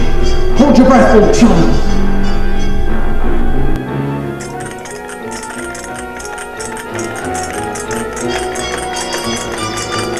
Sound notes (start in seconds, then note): 4.3 ticking sound